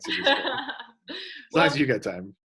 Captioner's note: laughs